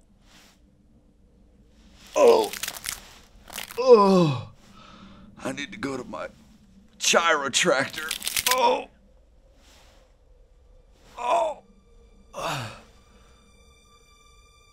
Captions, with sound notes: (Benson groaning) (bones cracking) I need to go to my chirotractor. (bones cracking) (Benson groaning) (gentle music)